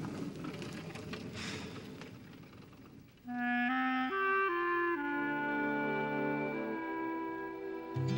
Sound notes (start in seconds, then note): 1.3 Joe sighs; 3.3 somber music